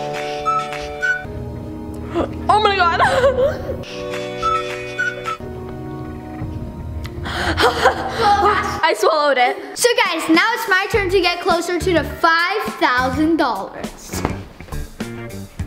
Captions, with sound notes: (chipper music) (somber music) Oh my God! (upbeat music) (gasping) I swallowed it. - So guys, now it's my turn to get closer to the $5,000.